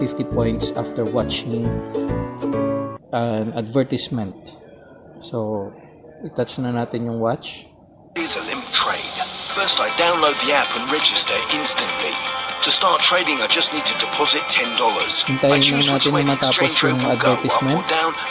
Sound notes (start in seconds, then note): 8.0 advert playing; 10.7 advert playing